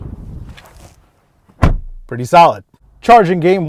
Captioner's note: car door shutting